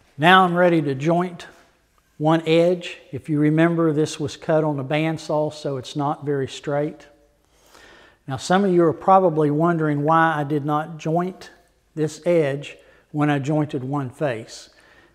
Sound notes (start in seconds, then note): none